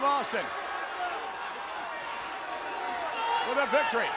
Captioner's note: crowd yelling